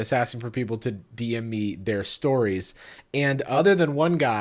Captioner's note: none